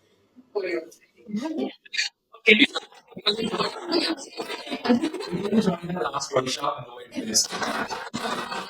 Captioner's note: laughter